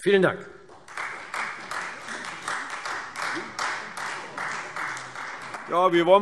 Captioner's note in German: Beifall Freie Demokraten